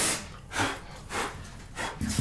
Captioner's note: blowing